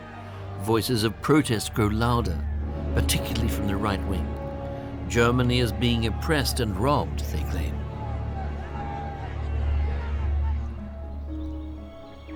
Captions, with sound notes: Voices of protest grow louder, particularly from the right wing. Germany is being oppressed and robbed, they claim. [crowd yelling] [suspenseful music]